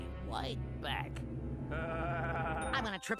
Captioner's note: laughing fiendishly